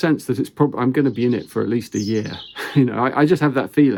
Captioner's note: chuckles